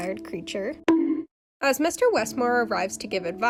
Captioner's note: bonk